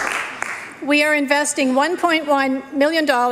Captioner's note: applause